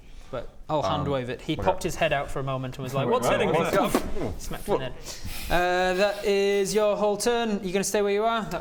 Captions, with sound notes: but I'll hand wave it he popped his head out for a moment and was like - what's hitting me? - What's that? *boof!* smack to the head uh that is your whole turn, you gonna stay where you are?